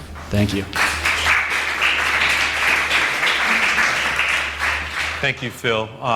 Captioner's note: applause